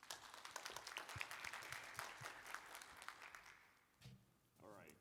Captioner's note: applause